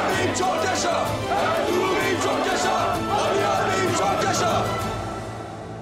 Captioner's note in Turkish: Hep bir ağızdan